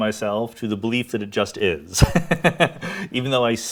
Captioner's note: laughs